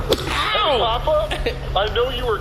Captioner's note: AJ slaps Pleck